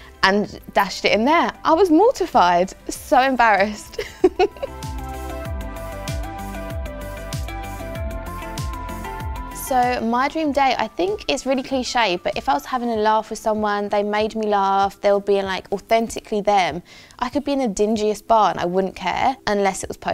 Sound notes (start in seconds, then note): 3.9 chuckles; 5.4 upbeat music